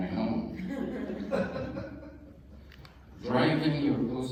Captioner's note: laughter